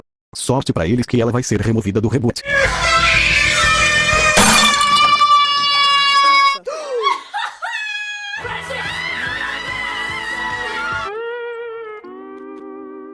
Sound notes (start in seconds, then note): 4.3 glass bowl break; 6.6 gasp!